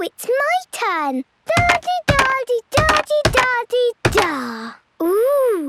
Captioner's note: thudding